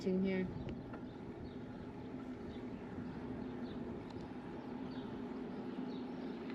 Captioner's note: birds chirping